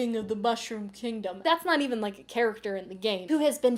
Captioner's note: producer voice